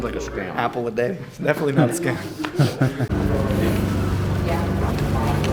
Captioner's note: laughter